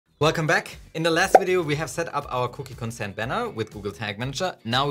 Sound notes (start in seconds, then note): 0.2 mellow music; 1.3 graphic pops